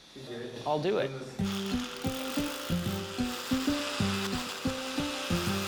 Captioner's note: drill whirring